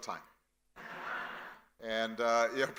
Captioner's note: audience laughing